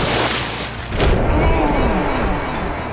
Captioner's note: screaming